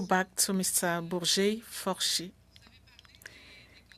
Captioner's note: speaking French